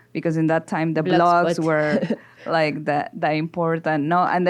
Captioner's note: laughs